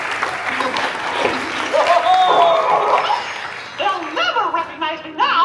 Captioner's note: Laughs and transforms into MICKEY MOUSE